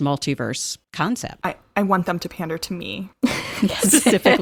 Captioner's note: chuckling